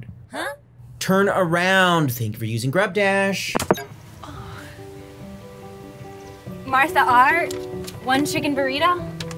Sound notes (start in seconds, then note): 3.6 phone clicks